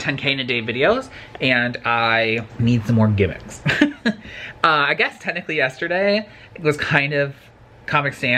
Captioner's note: laughs awkwardly